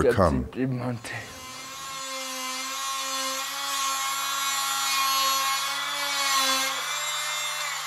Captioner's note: drill noise; voices speaking Nepalese